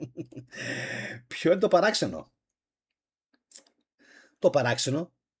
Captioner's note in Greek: γέλια; ξεφυσάει